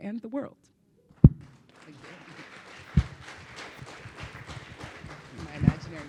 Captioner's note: audience applauding